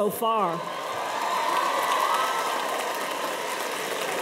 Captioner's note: cheers and applause